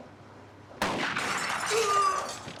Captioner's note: gun fires